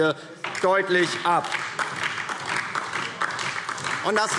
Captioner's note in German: Beifall DIE LINKE